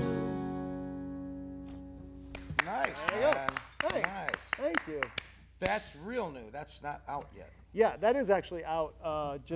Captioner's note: clapping